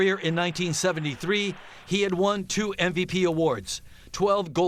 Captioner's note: applause